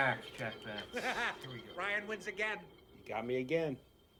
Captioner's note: laughs